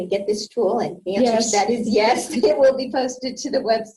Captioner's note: laughs